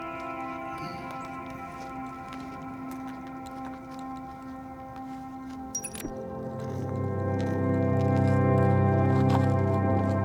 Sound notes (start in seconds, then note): 5.8 audio skips; 7.5 somber music